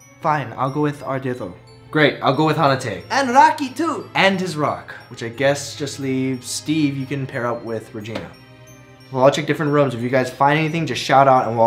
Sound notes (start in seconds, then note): none